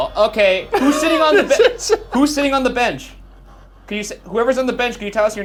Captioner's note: laughing